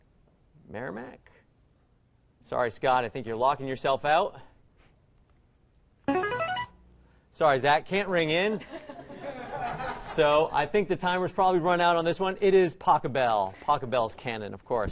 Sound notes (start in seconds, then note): 6.1 player buzzer; 8.5 laughter